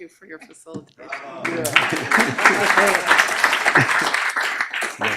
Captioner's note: crowd applauding